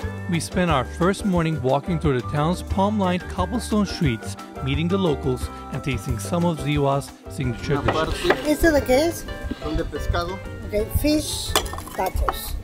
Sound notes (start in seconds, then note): 7.9 speaking foreign language